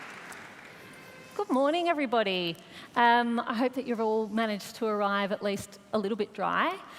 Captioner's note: applause